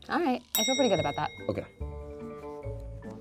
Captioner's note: bell clicking sound